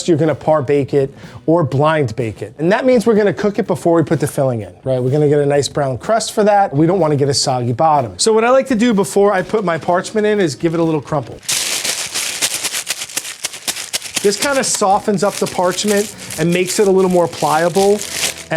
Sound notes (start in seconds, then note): 10.5 paper rustling